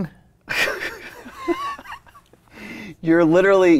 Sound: both laughing

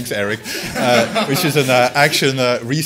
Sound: laughter; laughs

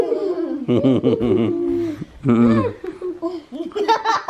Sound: laughing

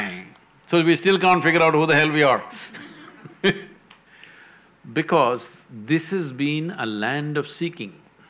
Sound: laughs

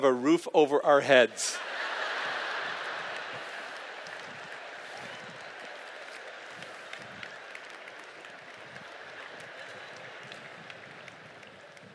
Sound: laughter

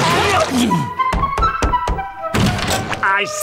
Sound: knocking

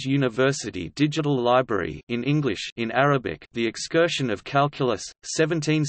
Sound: in Arabic

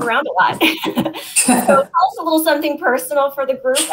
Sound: laughter

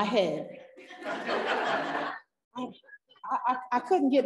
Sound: parents laughing

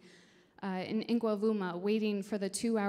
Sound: speaking in foreign language

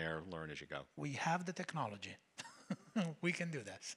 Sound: chuckles

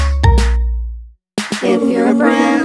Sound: none

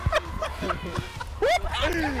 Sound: laughter

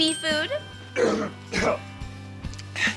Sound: grunting

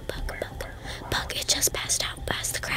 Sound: whispering

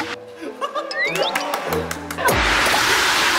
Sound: claps

